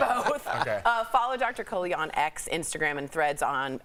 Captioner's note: laughter